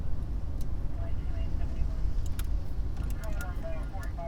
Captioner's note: muffled radio chatter